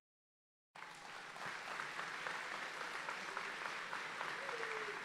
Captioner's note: audience applauding